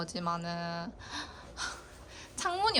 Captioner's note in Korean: 들숨 날숨